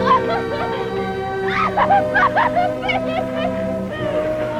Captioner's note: Sue wailing